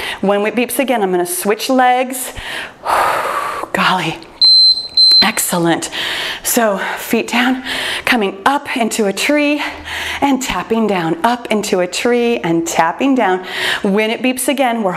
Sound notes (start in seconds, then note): 2.4 exhales; 4.4 timer beeps